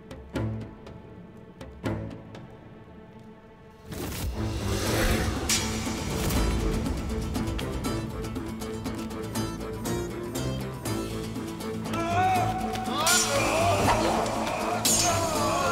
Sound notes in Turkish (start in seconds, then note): 4.1 Kılıç sesleri; 4.4 Müzik - Hareketli; 11.9 Bağırma sesleri